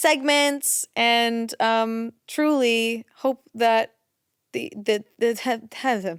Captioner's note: stammers